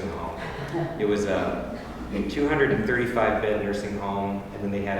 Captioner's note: laugh